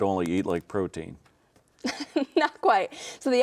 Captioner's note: chuckles